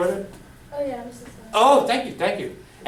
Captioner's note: voiceover